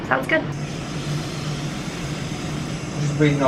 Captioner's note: oxygen running